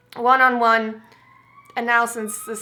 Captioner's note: loud siren